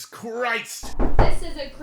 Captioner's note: door Knock